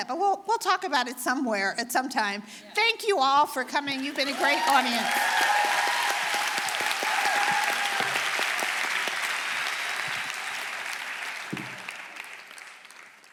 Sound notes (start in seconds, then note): 5.3 audience applauding